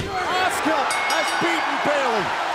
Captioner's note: bell ringing